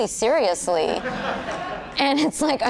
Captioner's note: audience laughing